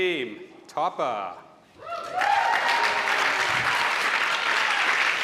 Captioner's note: applause